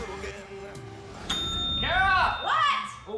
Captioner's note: bell dings